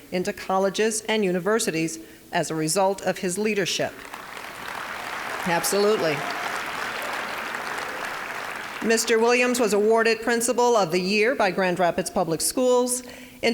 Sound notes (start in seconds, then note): 3.9 applause